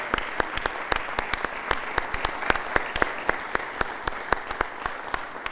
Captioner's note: audience applauding